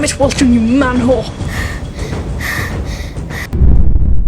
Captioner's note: Weltrin panting